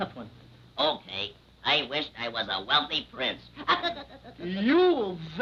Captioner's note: chuckling